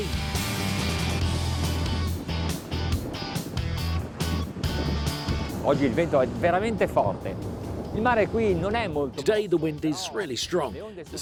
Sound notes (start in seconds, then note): 0.0 upbeat music; 5.6 speaking foreign language